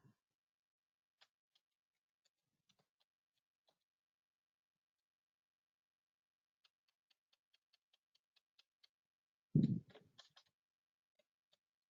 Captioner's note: 20 seconds pause